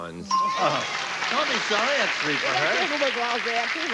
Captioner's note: chuckles